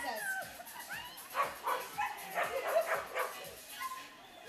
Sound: dog barking

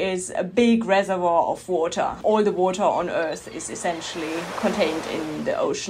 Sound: waves crash

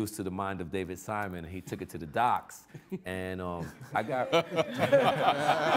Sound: all laughing

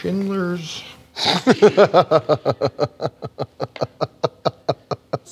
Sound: laughter

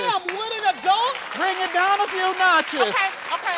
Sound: audience applauds

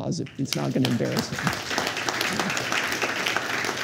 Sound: applause

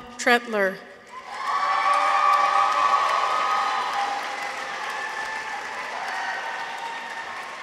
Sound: people cheer; audience applauds

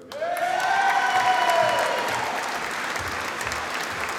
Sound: audience applauding

